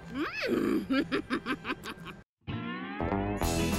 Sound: chuckles; lively music

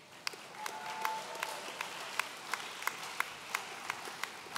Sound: audience cheering

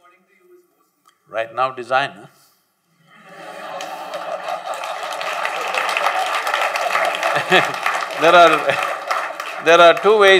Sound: laughter/ Applause

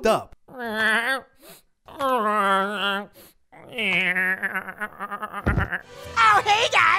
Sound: Rudolph whimpers

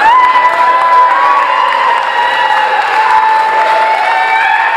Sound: applause and cheering from the crowd

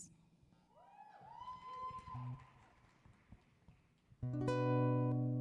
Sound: audience cheering

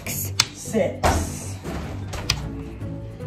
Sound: electronic Voice

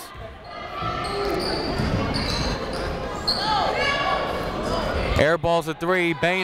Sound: people shouting in the crowd

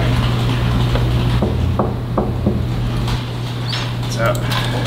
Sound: tapping

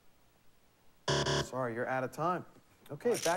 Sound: buzzer

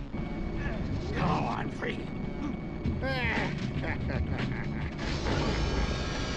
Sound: laughs

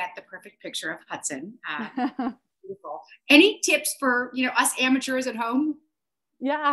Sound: laughs

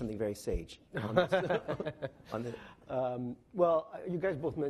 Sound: laughing

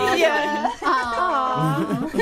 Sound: everybody awws; all laughing

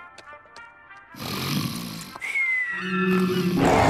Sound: snoring

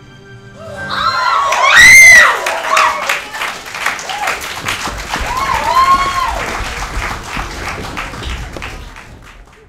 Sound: audience cheering

